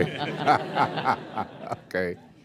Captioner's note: laughter